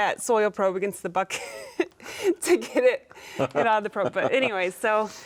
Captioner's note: chuckling